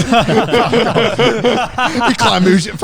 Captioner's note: all laughing quickly